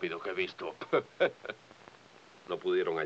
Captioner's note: Gaffer laughs